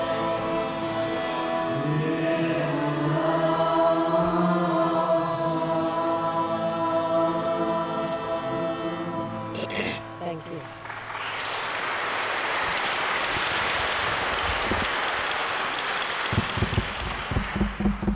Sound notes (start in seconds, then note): 13.8 clapping